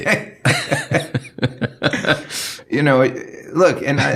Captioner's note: laughing